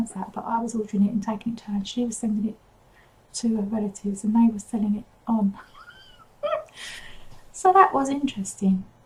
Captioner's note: laughs